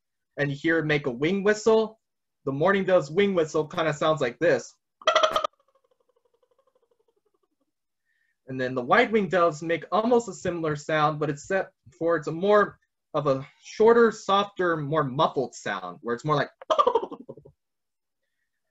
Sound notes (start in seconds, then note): 5.0 vocalizes; 16.5 vocalizes